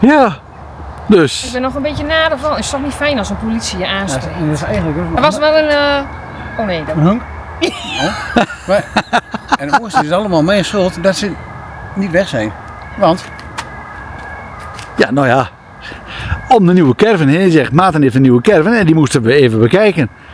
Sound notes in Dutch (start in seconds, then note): 7.6 gelach